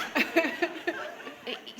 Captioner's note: laughter